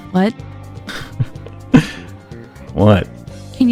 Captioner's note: giggles